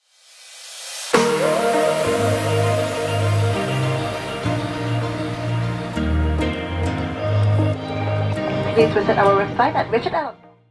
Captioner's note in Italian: Applauso